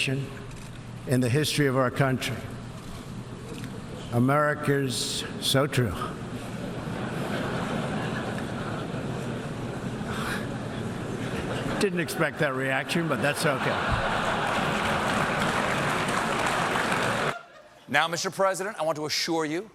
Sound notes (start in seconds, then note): 6.7 laughter; 12.7 laughter